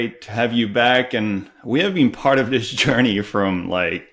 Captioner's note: chuckles